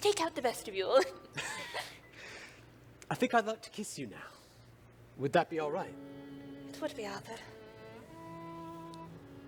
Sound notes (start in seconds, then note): 1.7 laughs